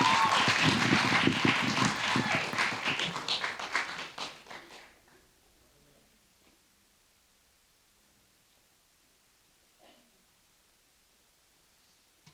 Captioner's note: cheers and applause